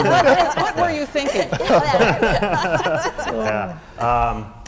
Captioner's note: laugh